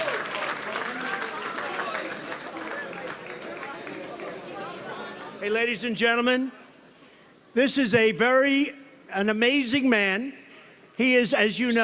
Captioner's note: applause